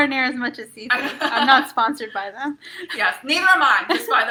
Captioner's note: laughs; laughs